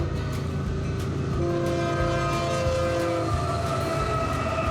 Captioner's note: whistle blowing